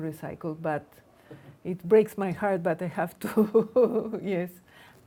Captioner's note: laughs